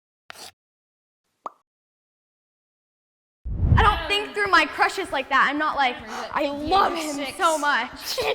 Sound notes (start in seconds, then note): 0.5 scratching and popping sound effects; 8.0 girl laughing